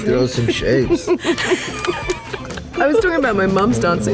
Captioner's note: laughter